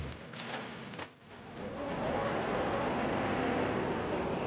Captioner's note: indistinct chatter